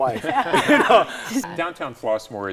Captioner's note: laughing